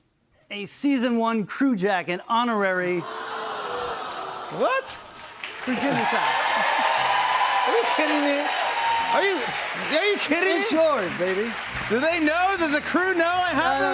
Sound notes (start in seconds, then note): 6.5 cheers and applause